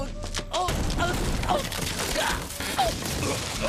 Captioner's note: geoff groaning